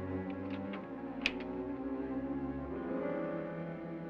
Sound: door knob clicks; suspenseful music

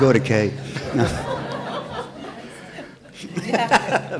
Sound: laughter

